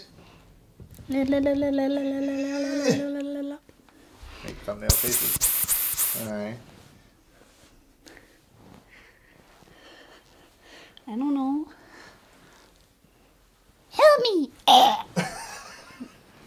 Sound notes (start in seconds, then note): 1.6 making silly mouth sounds because we did it!